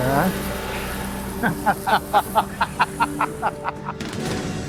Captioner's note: laughter